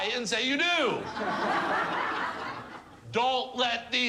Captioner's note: crowd laughs